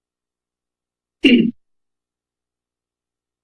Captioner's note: coughs